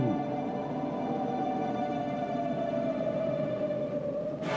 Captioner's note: wind howling